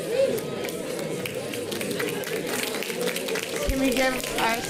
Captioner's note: audience applauding